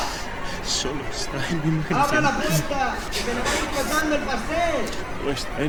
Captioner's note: men speaking in foreign language